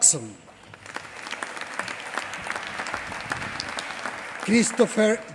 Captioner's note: applause